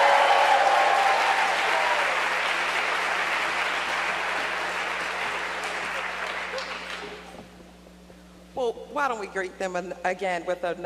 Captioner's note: cheers and applause